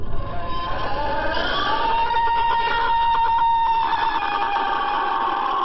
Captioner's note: creature screaming